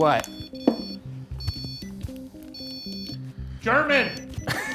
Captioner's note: REM pod beeping